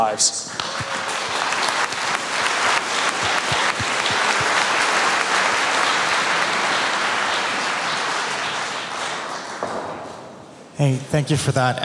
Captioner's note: applause